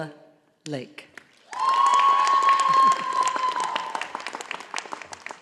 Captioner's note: audience applauding